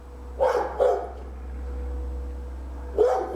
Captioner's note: Sasha barking throughout